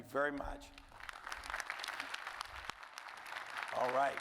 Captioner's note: audience applauding